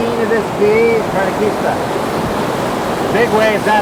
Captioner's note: rushing water